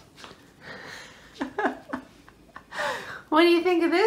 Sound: laughter

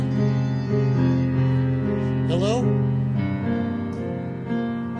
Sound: phone ringing

